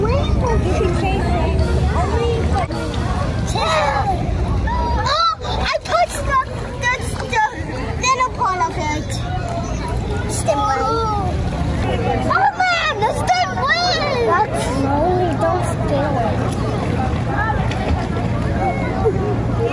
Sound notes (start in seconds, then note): 4.6 excited children screaming; 12.2 children screaming